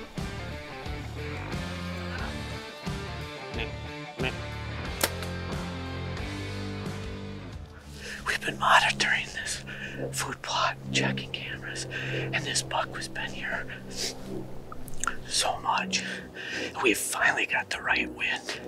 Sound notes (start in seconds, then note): 3.6 buck grunting; 5.0 arrow shot